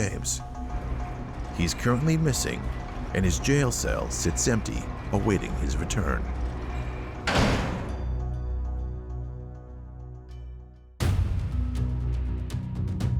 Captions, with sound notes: He's currently missing and his jail cell sits empty awaiting his return. (gate clangs) (dramatic music)